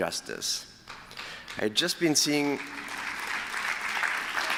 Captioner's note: applause